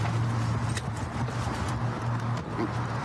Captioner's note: none